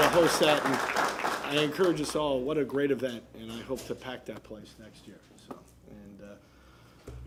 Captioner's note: applause